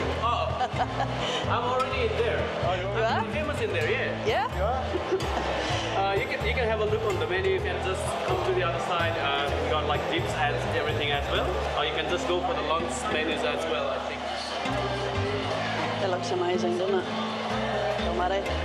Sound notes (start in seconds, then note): 4.2 laughing; 15.1 crowd noise